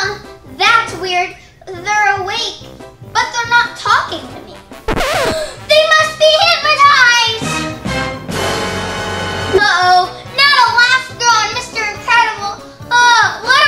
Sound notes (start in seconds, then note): 4.8 record scratches; 5.2 gasps; 7.9 dramatic music